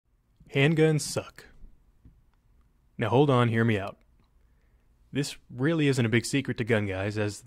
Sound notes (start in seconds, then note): 0.8 voiceover